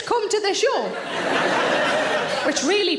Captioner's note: audience laughs